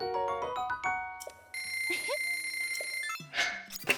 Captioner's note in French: musique d'obtention d'objet; bruit de rubis dépensés